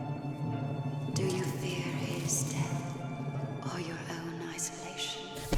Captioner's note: voiceover